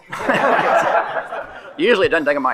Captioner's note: attendees laughing